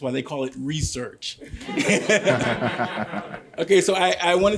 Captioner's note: laughter